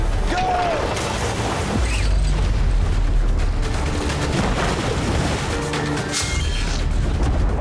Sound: dramatic music; anchor splashing; chain clanking; digital beeping; urgent music

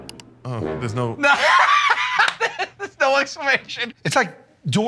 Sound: laughing

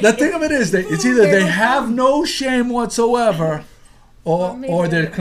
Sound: voiceover

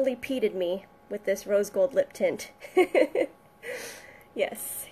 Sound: giggles

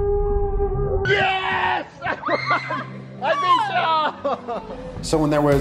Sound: kids squealing in slow motion; laughing

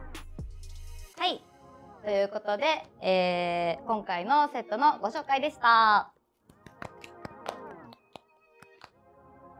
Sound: crackle

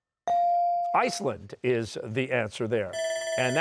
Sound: bell ringing

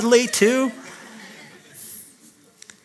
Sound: laughter

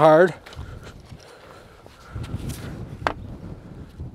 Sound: wind whooshing

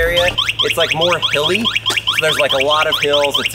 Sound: bike beeping

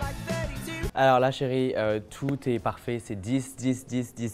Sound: speaking French

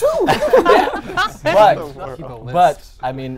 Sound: laughing

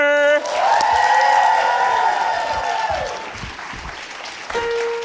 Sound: audience cheering

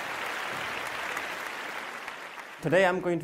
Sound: applause

